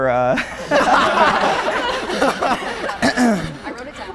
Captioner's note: group laughing